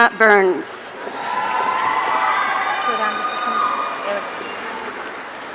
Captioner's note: audience cheering